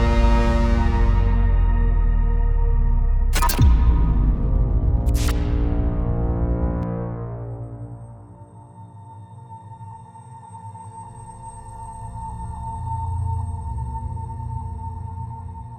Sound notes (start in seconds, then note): 0.2 mysterious music; 3.3 electronic static; 6.9 mysterious music